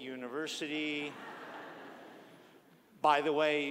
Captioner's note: audience laughing